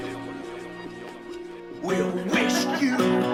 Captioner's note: doorbell rings